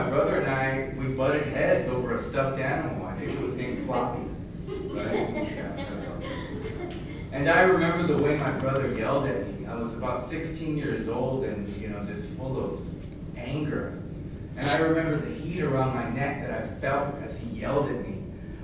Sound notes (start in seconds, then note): 4.6 laughter